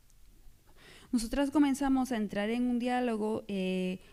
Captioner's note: speaking spanish